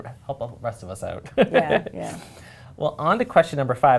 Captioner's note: chuckles